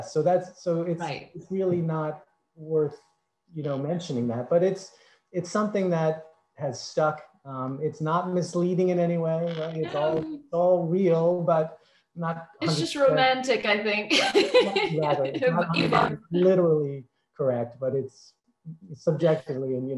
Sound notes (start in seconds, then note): 14.1 laughs